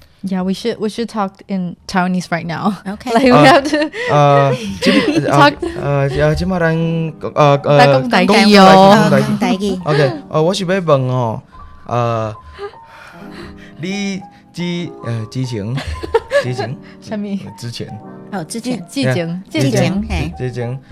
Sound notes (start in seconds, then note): 3.7 Taiwanese; 15.8 laughing; 17.0 Taiwanese; 17.7 Mandarin; 19.1 Taiwanese